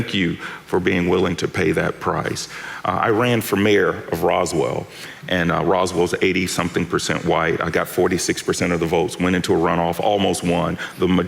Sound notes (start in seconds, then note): none